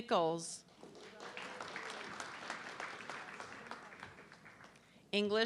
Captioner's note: audience clapping